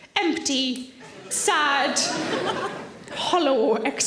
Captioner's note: audience laughing